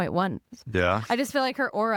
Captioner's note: scoffs